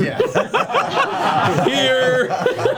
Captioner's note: all laugh